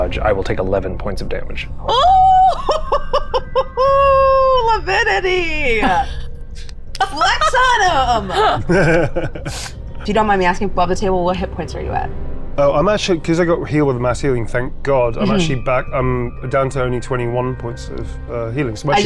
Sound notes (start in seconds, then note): 7.1 laughing